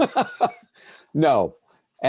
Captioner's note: laughing loudly